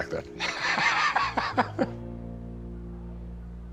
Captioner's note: laughter